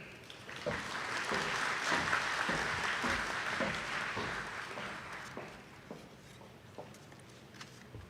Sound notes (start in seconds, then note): 0.2 attendees clapping